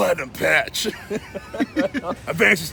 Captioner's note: laughing